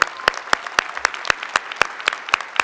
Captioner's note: applause